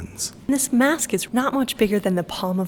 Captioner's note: voiceover